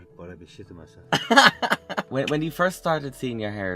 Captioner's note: laughter